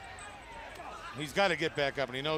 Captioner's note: crowd chatter